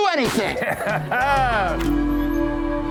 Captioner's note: chuckling; nervous music